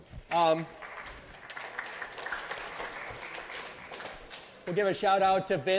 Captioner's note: students applaud